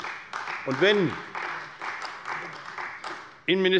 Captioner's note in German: Beifall bei Abgeordneten der CDU